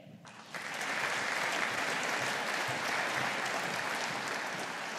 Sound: audience applauding

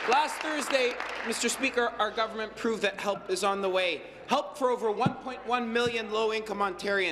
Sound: applause

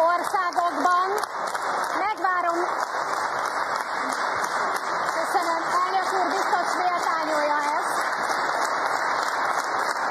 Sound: applause; applause

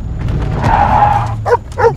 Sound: car stops and skids; dog barks twice

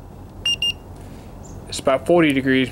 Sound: thermometer beeps

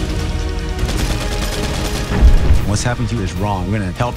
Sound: epic music; gunfire

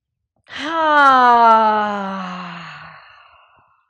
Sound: sighs

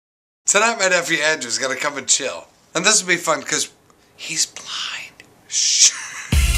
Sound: whisper; laughs

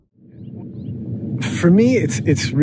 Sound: air whooshing; birds chirping

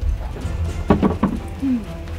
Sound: bucket dropping; upbeat music

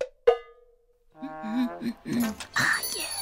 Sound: hums

